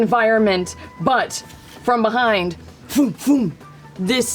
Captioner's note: whooshing